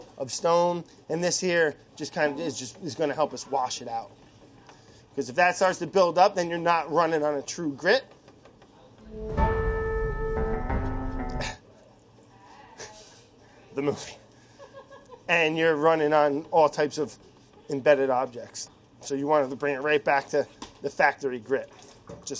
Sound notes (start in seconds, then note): 9.1 dramatic music; 11.8 laughing